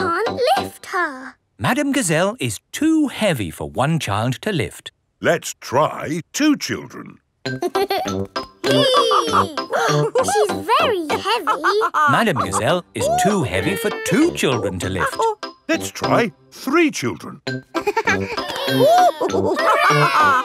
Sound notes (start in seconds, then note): 8.6 both straining; 8.6 madam gazelle laughing; 8.6 giggles; 17.7 giggles; 17.8 madam gazelle laughing; 17.8 children straining